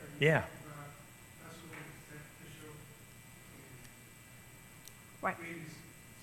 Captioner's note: speaking off mic